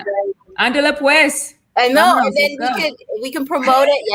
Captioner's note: foreign language